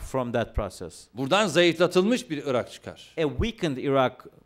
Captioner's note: non-english speech